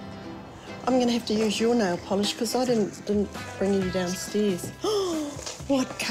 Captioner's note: gasps